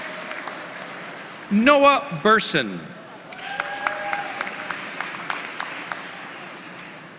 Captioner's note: applause